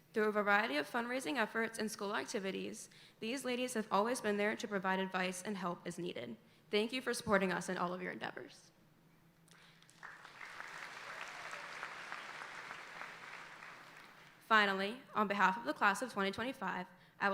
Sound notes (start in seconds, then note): 9.6 audience applauding